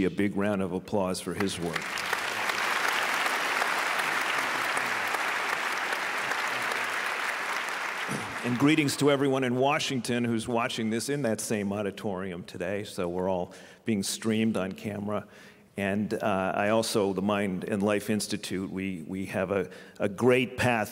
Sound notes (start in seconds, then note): 5.0 applause